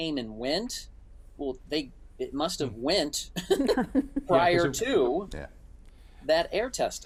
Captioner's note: laughs